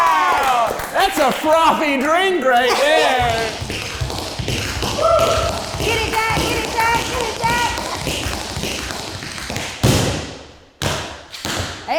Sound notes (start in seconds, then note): 3.1 tapping